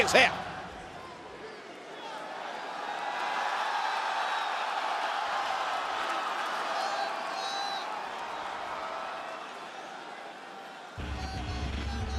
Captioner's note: applause